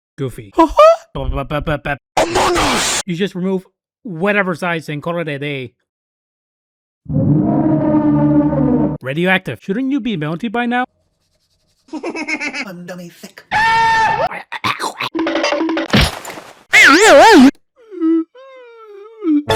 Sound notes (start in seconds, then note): 13.5 iconic scream